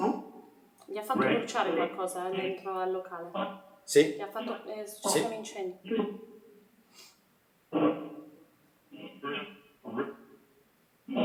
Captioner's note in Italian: schiarire la voce